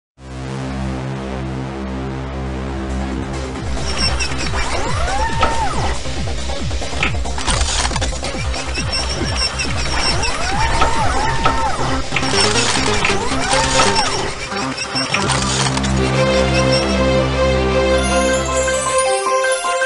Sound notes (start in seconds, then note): 0.0 digital synth music plays; 4.8 robotic sounds